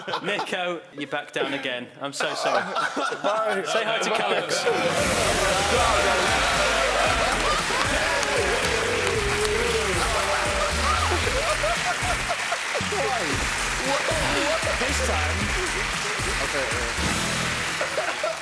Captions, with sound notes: - Niko, you're back down again. I'm so sorry. (laughing) - Bye. - Say hi to Callux. (applauding)